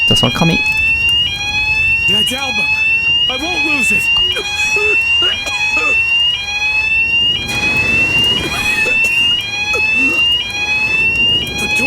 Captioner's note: fire alarm